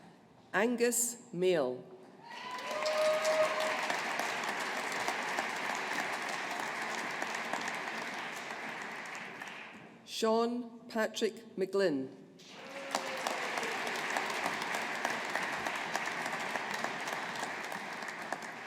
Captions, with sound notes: Angus Mayall. (AUDIENCE APPLAUDING) Sean Patrick McGlynn. (AUDIENCE APPLAUDING)